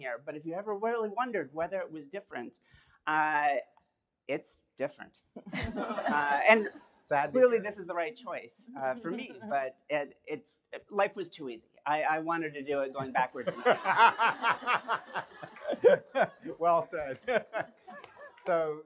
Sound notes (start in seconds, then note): 14.6 laughter